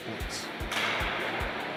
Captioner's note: hockey sticks colliding